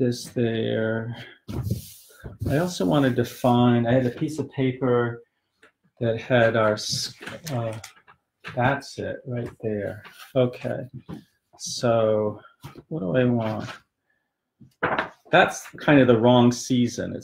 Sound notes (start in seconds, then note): 9.8 makes sound effect, "whomp whomp"